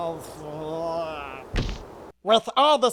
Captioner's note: thud